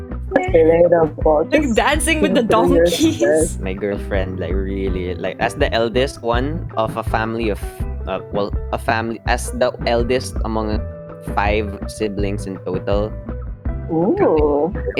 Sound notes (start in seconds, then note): 8.0 stutters